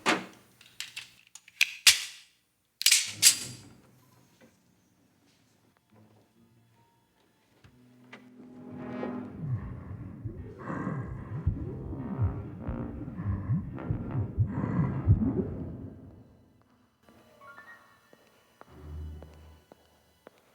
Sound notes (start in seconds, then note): 2.8 gun clicks; 5.9 dramatic music; 9.4 Donald growling; 18.6 suspenseful music